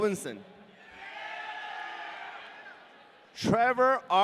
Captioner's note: audience cheering